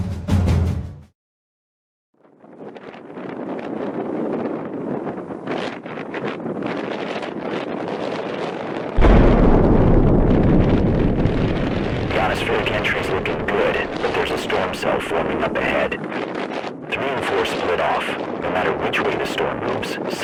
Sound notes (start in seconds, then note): 0.1 drum cadence stops; 3.8 wind rushing; 9.0 sonic boom